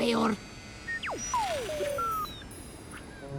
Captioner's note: beeps